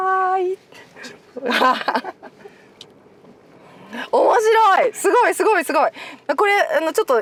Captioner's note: laughs